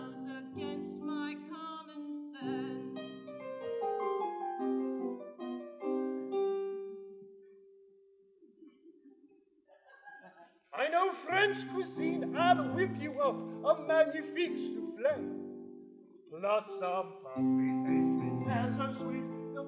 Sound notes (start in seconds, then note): 9.7 laughter